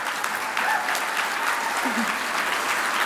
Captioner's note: applause